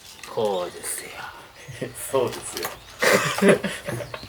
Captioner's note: laughs